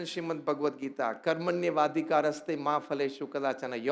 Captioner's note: non-english speech